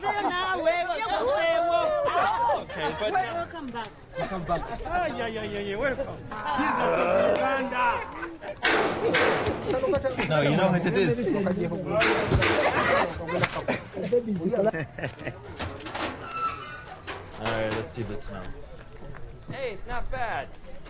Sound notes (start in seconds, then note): 12.0 people laughing; 15.6 door squeaking